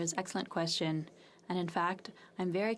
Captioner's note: speaking French